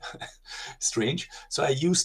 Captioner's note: laughing